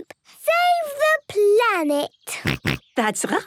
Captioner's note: snorts